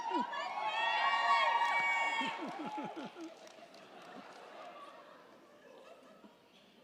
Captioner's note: crowd cheering; crowd clapping